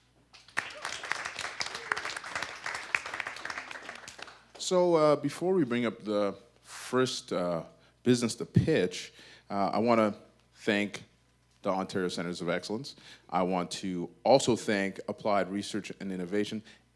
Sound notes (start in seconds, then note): 0.4 audience applause